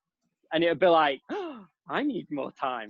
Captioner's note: exclaims